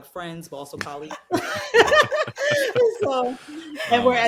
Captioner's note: all laughing